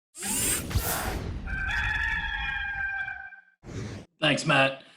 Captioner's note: cock crowing